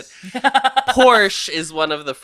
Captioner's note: laughs